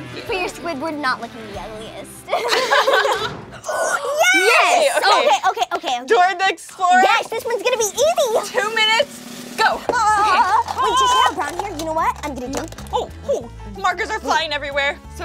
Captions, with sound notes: For your Squidward not looking the ugliest. [laughing] - Yes! - Okay, okay. - Dora the Explorer. - Yes, this one's gonna be easy. Two minutes. Go! Okay. Does she have brown hair? You know what I'm gonna do? Markers are flying everywhere.